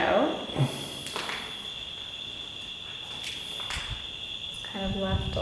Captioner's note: crickets chirping